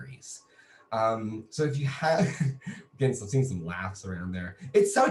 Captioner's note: laughs